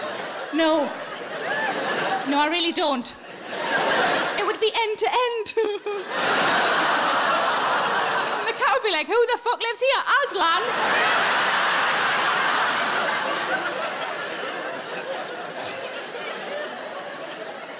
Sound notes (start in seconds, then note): 0.0 audience laughing; 10.4 audience laughing